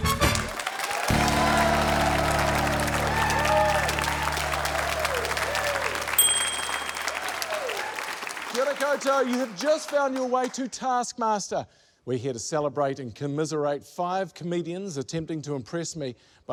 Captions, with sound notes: (CHEERING, APPLAUSE) (DING!) - Kia ora koutou. You have just found your way to Taskmaster. We're here to celebrate and commiserate five comedians attempting to impress me